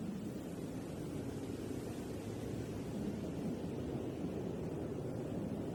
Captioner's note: wind whistling continues